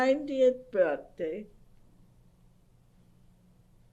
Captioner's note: pauses for 6 seconds